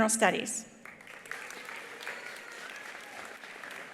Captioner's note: attendees applauding; attendees cheering